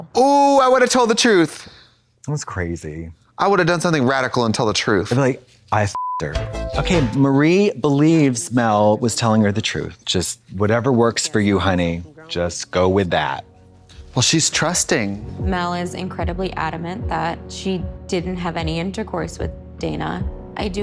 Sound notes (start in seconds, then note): 5.9 beep; 6.2 synth bop